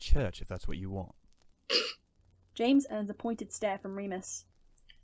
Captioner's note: snorts